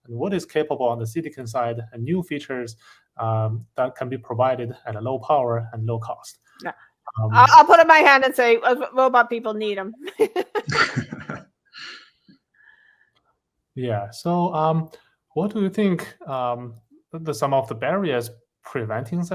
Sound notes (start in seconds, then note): 10.0 laughter